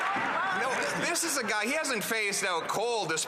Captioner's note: some Applause